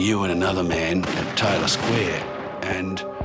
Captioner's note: gun fires